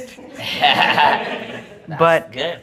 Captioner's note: audience Laughing